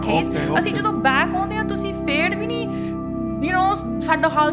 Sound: speaks Punjabi

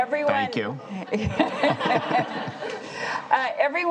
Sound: laughing

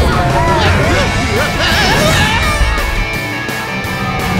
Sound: cheering; Crusher screaming

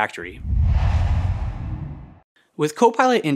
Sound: logo swooshes

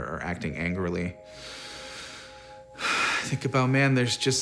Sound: sighs

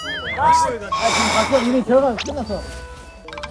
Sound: sigh

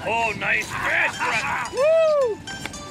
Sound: laughs

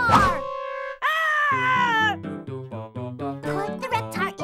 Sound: Chuckie screaming

